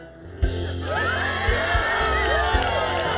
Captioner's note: cheering